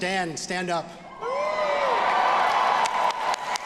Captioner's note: audience cheering; audience applauding